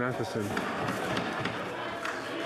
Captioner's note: speaking French